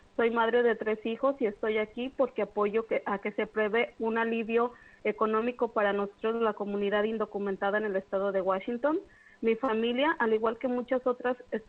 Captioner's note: speaking spanish